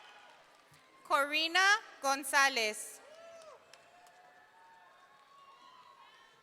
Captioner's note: audience cheering